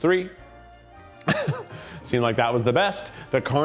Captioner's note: chuckles